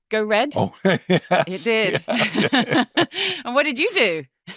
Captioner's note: chuckling